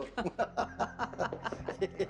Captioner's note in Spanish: Risas